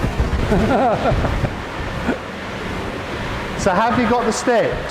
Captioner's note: laughter